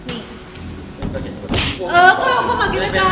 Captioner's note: pat